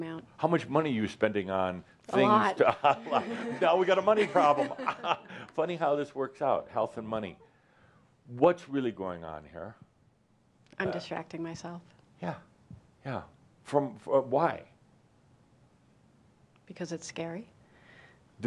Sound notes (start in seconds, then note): 2.6 chuckling